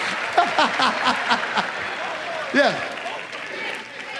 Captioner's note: laughs